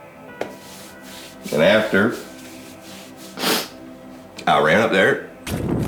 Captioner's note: sniffs